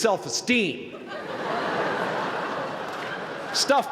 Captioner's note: laughter